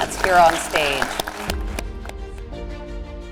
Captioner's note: applause